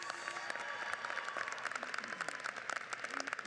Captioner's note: crowd applauds